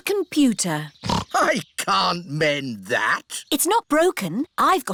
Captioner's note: snorts